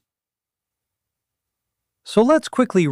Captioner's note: pause